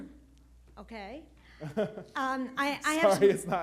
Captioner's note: chuckles